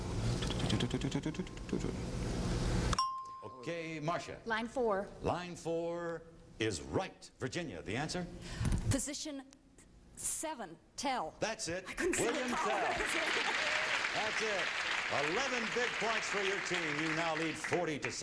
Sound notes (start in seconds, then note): 2.9 ding; 12.1 laughing